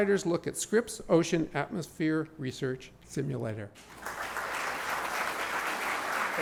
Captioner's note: applause